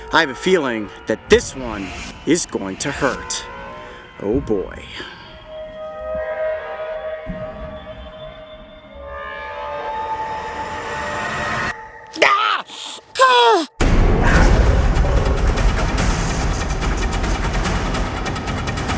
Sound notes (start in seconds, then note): 11.8 scream; 13.8 intense percussion music